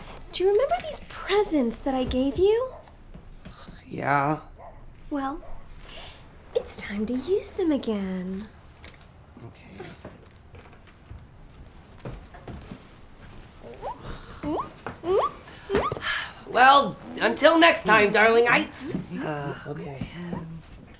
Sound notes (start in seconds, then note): 15.0 Lily squeals